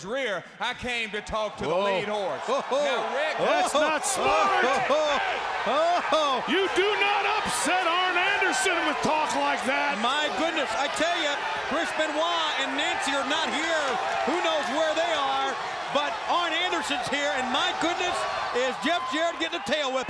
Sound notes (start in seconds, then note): 3.6 crowd cheering